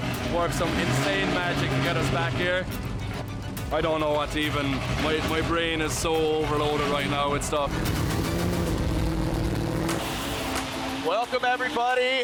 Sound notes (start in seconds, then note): 0.0 engine rumbles; 8.8 graphic whooshes; 10.4 upbeat music plays